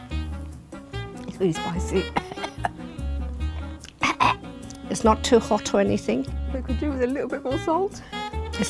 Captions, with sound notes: - It's really spicy. (coughing) - It's not too hot or anything. - It could do with a little bit more salt.